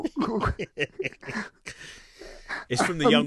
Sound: laughing

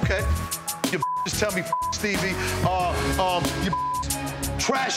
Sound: beep

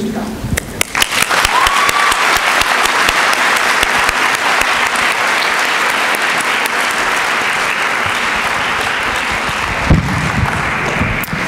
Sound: applause

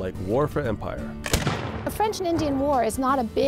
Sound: gunshot

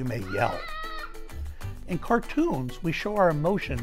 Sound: child screaming

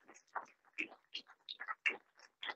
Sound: none

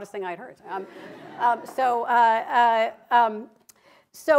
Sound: laughter

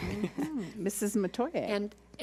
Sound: laughs

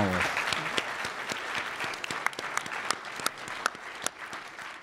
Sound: audience applause

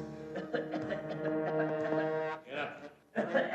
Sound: Jerry coughs

